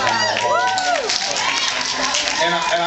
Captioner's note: cheers